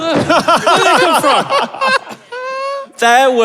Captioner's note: group laughing